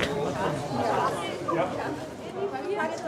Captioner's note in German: Stimmengewirr